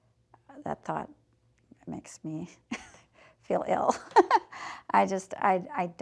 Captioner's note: chuckling